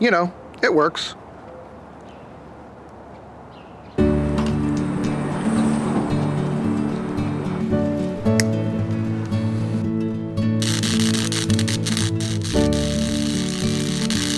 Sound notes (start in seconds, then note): 8.8 clipping noise; 10.6 sparking noise